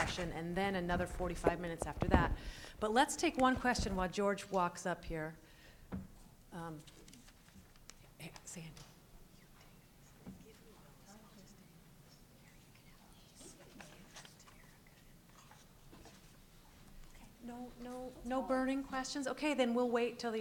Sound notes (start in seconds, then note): 7.8 background Whispering